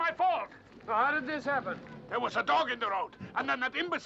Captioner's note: none